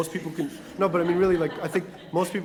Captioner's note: laugh